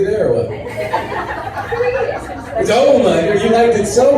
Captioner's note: laughs